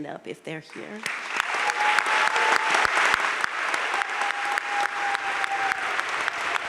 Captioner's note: crowd cheering and applauding